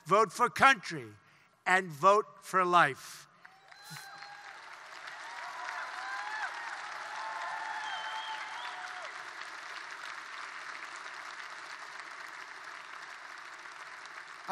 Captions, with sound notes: Vote for country. And vote for life. (Applause.)